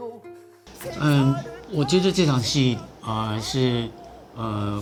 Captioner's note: speaking in Chinese